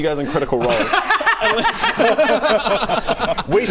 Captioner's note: laughs in no regrets